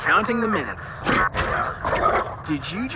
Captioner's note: 2Bells growling